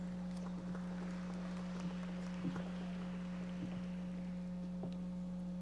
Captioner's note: audience members applauding